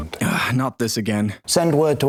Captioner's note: sigh